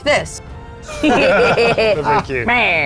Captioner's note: players laughing